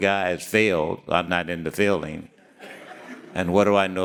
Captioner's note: audience laughing